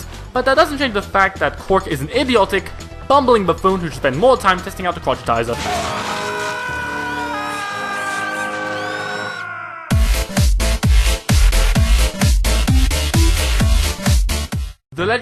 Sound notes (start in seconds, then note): 5.5 scream